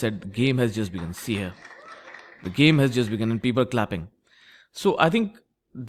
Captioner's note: claps